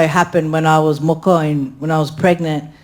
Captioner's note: speaks in foreign language